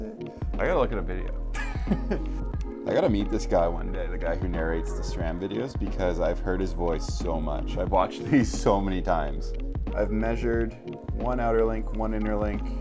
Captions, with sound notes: I gotta look at a video. (laughs) I gotta meet this guy one day. The guy who narrates the Strand videos because I've heard his voice so much. I've watched these so many times. I've measured one outer link, one inner link